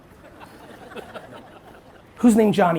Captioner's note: audience laughs